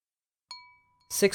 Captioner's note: chime sound